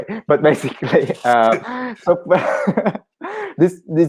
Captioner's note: laughing